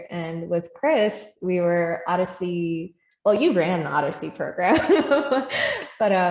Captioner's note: laughs